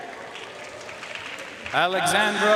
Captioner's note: audience cheering and applauding